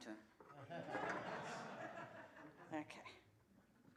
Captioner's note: laughter